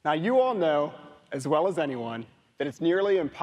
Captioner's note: none